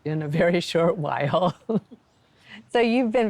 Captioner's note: laughs